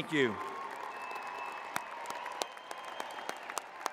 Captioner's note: cheers